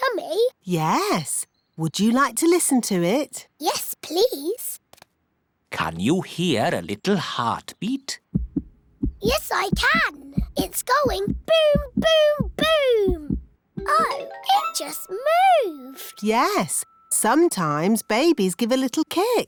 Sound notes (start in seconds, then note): 8.9 heart thumps